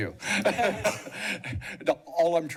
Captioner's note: laughter